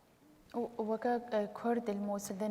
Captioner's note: speaking kurdish